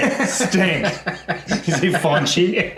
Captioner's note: laughs